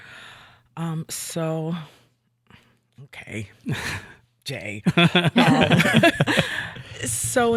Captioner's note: all laughing